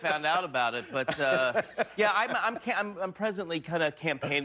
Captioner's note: laughter